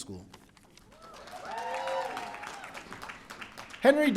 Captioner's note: audience cheering